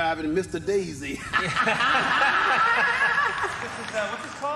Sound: laughing

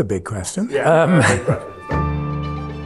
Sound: laughing

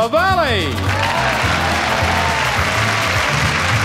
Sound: audience applauds

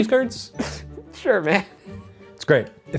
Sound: laughing

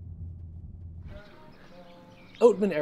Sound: birds chirping

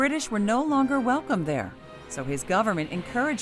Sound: ocean</b> <b>waves

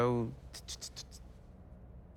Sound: thwip thwip

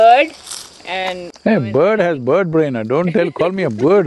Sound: laughs

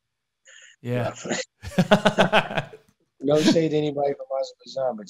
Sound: laughing

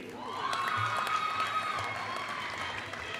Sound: applause

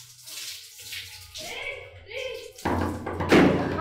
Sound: bangs door

